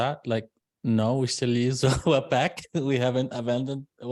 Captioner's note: laughs